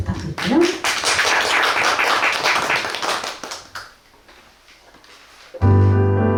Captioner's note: applause